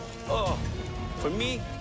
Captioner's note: groaning